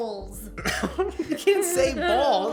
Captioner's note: both laugh